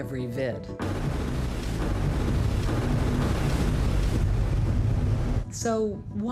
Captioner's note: repeat explosions